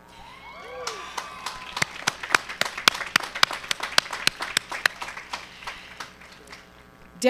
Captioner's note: cheering and applause